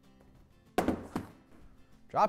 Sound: box hits table

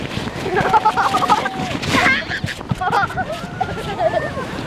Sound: laughing

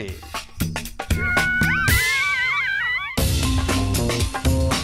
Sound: both howling

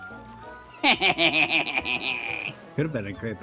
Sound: mischievous laughter

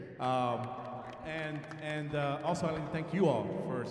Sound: audience applauding

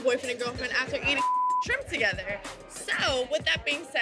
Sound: beep

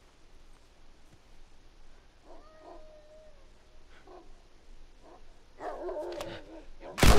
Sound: dogs barking

